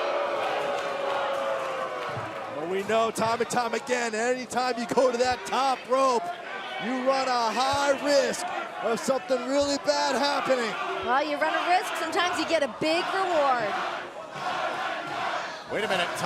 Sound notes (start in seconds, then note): 1.7 cheers & boos; 15.4 fans chanting